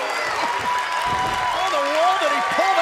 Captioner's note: crowd cheering